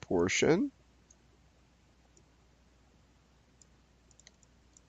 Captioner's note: mouse clicking